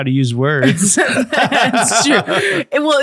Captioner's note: both laughing